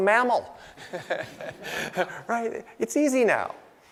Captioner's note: laughing